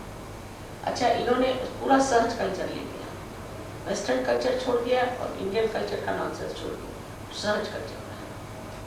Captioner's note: hindi